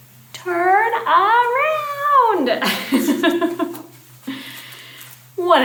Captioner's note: laughs